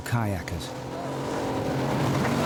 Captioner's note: lifeboat engine whirring